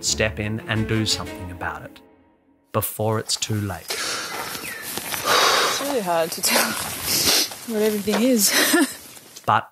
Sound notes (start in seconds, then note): 5.0 heavy breathing